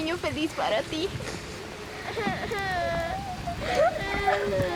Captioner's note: crying